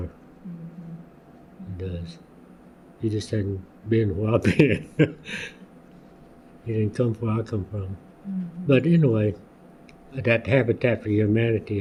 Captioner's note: laughs